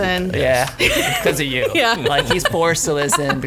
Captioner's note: laughs